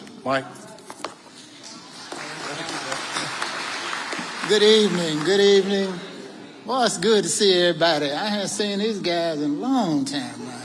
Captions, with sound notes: Mike? (audience applauding) - Good evening. Good evening. Well, it's good to see everybody. I haven't seen these guys a long time,